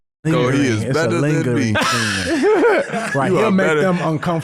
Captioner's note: laughing